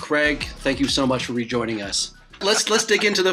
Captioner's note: laughs